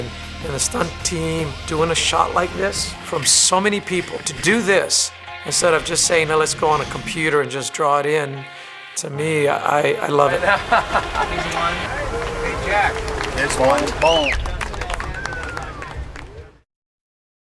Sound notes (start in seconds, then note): 9.8 laughs; 14.0 applauding